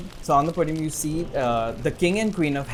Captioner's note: none